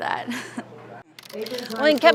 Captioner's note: laughs